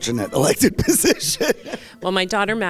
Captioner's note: laughs